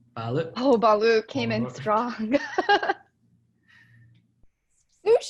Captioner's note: laughing